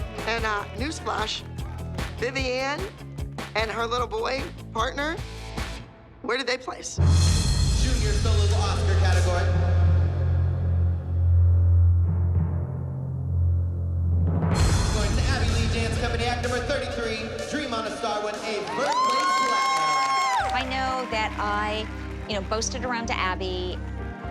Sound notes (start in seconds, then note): 19.4 cheering and applause